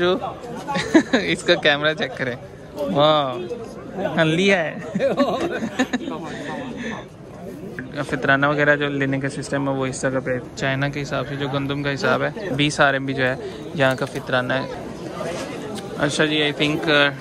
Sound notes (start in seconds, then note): 4.7 laughter